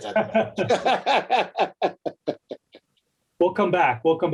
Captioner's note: laughs